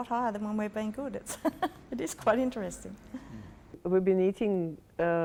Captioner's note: laughing